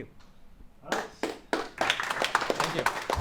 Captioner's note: audience applauding